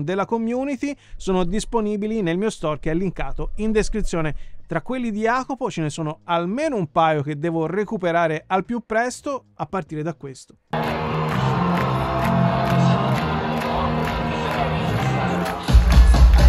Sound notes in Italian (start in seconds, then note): 14.7 Applauso